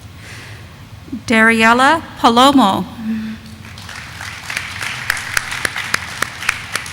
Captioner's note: audience applauding